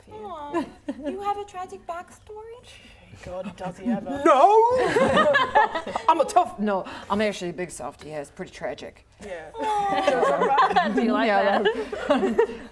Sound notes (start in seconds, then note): 4.3 laughing